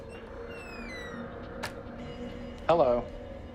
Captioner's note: creaking door opening